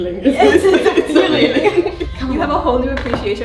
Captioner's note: both laughing